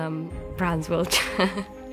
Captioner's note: laughs